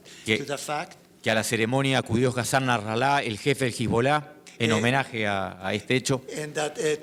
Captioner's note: speaking in foreign language